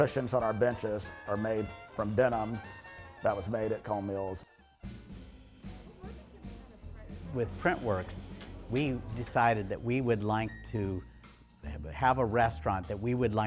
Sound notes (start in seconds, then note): 5.7 upbeat music; 7.1 patrons chattering indistinctly